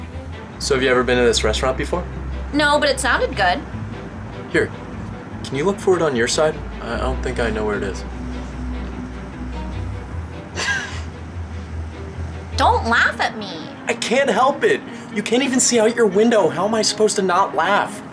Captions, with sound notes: So have you ever been in this restaurant before? No, but it sounded good. Here, can you look forward on your side? I don't think I know where it is. (Laughs at her) Don't laugh at me. I can't help it you. You can't even see out your window. How am I supposed to not laugh?